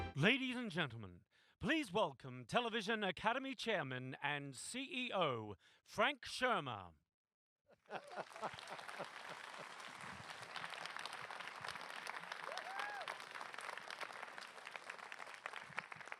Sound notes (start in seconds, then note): 7.8 applause